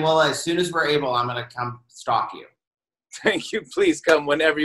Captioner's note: chuckling